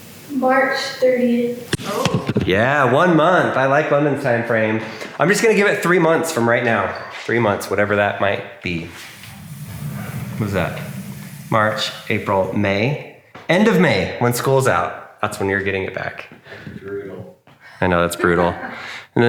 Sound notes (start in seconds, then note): 8.8 door sliding; 18.2 laughing